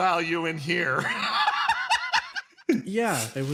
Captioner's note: laugh